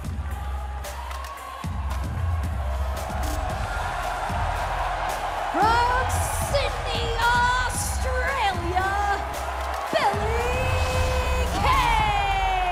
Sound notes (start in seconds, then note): 3.4 cheers & applause